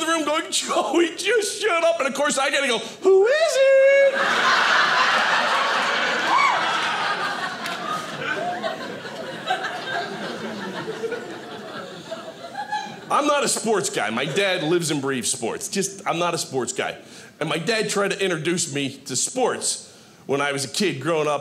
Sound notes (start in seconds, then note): 4.0 audience laughing